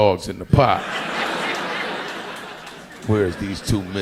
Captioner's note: audience laughing